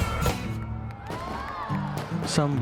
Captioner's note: crowd cheering